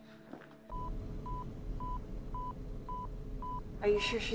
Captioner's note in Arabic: صوت صفير